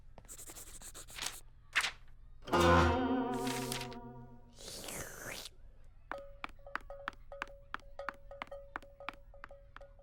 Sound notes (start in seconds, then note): 7.9 quiet jingle of cow bell